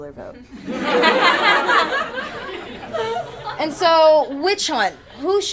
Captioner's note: attendees laugh